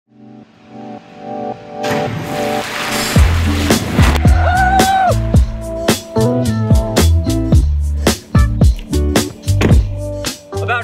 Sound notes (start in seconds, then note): 0.0 soft music; 0.0 water splashes; 3.1 upbeat music; 4.3 screams; 9.5 car door slams